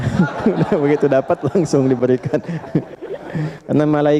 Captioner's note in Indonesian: tertawa